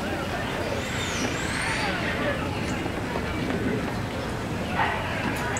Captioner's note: indistinct background chatter